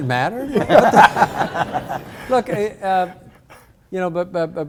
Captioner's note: audience laughs